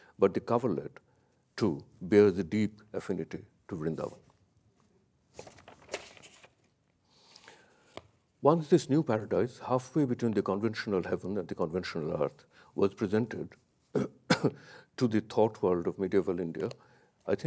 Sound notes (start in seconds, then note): 5.3 paper rustles; 5.3 paper crackling